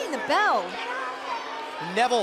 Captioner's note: bell ringing